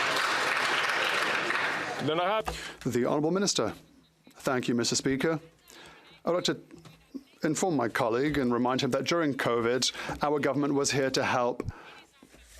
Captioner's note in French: applaudissements